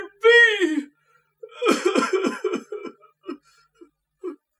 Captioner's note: continues sobbing